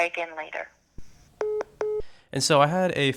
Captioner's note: hangs up